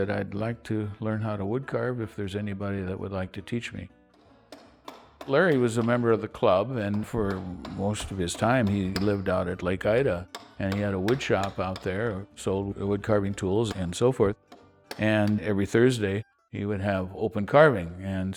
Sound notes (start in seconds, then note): 5.6 pounds chisel